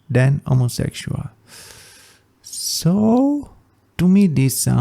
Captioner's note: sigh